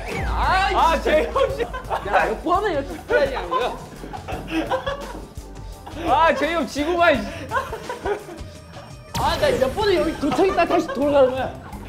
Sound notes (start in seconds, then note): 7.2 out of breath from laughing; 10.0 laughing